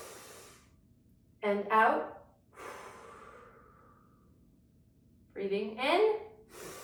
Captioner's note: inhales deeply; exhales deeply; inhales deeply